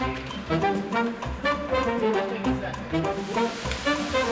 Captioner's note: jaunty instrumental; people chattering